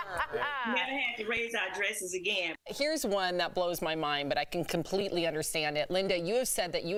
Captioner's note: laughter